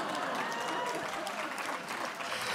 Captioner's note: laughter; applause